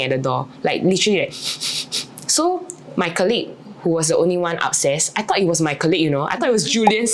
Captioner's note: sniffing sound